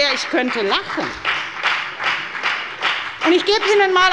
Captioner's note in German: Lebhafter Beifall bei der FDP